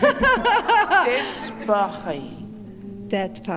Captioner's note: In Mi’kmaq